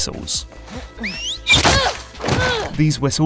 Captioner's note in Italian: fischio; Ellie geme